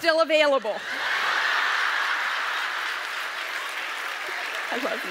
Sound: audience laughs

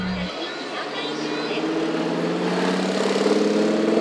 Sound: engine roaring

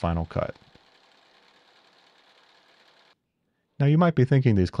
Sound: milling machine whirring

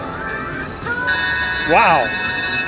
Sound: bell ringing

